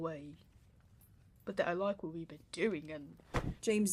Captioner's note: a pillow impacts something